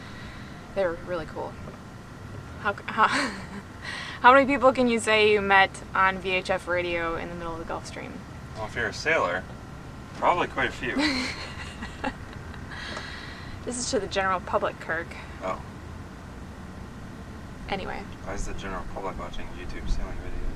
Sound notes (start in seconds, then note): 3.0 chuckles; 11.0 chuckles